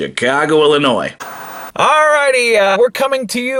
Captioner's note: TV Static